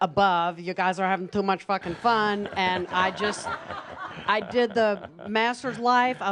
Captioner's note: laughter